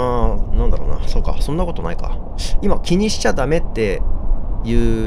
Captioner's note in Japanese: none